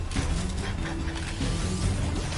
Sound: laughs

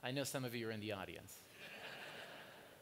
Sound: laughter

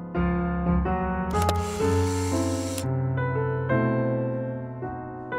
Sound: camera clicks

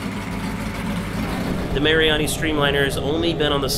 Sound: engine humming

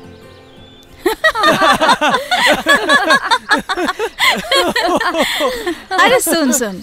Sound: laughs

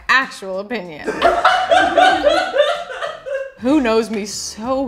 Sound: laughs

